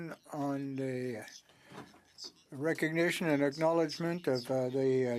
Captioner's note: speaking French